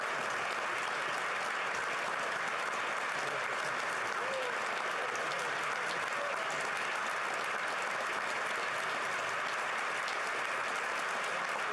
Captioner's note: applause